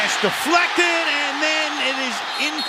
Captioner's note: cheering